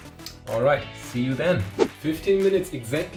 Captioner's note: whooshing